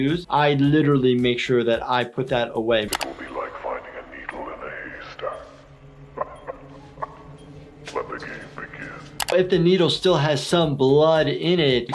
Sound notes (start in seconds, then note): 6.1 Billy laughing